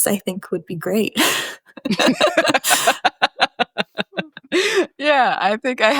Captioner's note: laugh